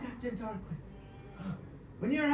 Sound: heavy breath

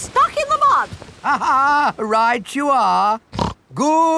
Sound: laughs; snorts

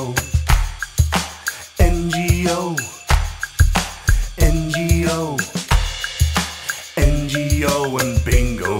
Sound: clap

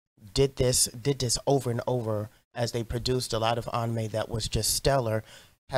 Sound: none

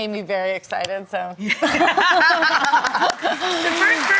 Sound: laughing; audience clapping

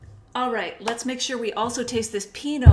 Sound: claps

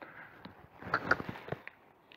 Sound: cluck

